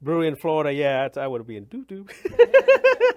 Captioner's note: laughs